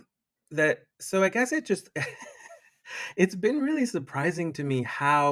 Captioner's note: chuckles